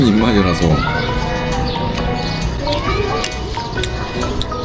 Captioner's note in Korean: 쩝쩝 짭쫩